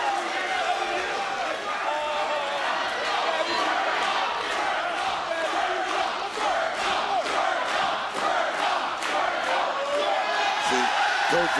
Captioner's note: crowd chants "twerk off"